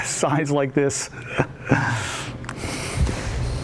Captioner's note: laughs